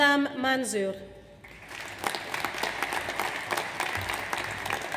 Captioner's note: audience applauds